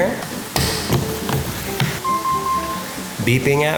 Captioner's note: charger beeping